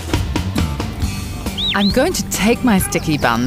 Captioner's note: whistling